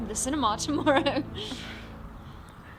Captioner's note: laughs